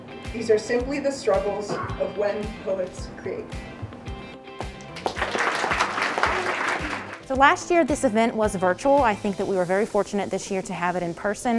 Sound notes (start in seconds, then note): 4.4 upbeat music; 4.6 audience claps